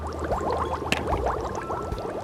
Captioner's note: detergent fizzing